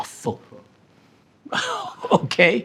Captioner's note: person chuckling